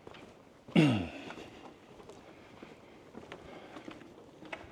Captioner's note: clears throat